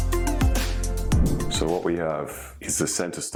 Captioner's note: image whooshes